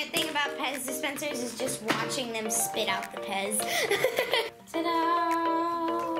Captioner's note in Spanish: risas